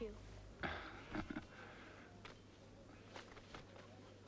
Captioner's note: Pateray chuckles